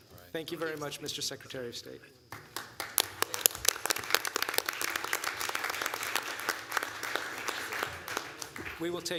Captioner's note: applause